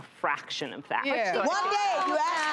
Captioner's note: audience applauds